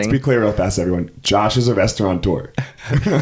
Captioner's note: laughing